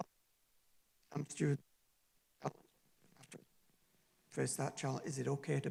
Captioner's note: distorted audio